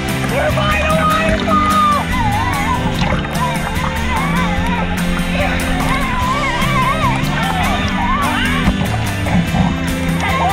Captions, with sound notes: We're by the waterfall (water bubbling) (upbeat music continues)